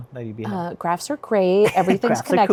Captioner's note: chuckles